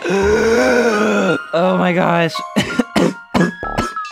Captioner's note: coughs